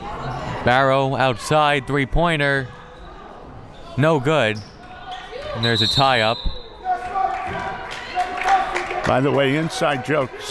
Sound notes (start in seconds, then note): 5.6 whistle